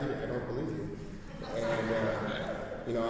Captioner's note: laughter